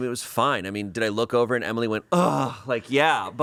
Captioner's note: groans